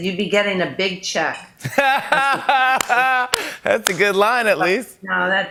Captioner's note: laughs